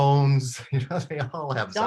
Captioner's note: laughs